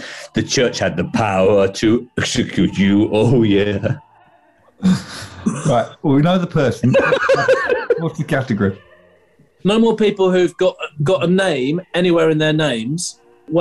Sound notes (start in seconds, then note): 4.8 chuckling; 6.6 laughing